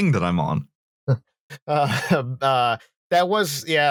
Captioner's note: laughs slightly